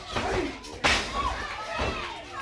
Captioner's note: crowd cheering